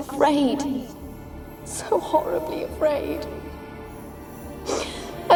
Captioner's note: tearfully; sniffle